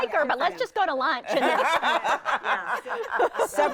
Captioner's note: everyone laughing